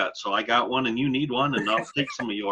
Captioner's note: laughs